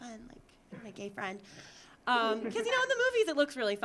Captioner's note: audience laughing